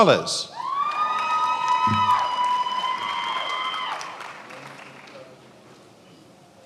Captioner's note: attendees applauding and cheering